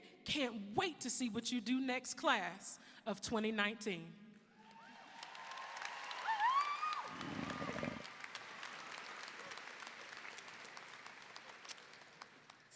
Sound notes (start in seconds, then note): 4.8 audience cheering; 4.8 audience applauding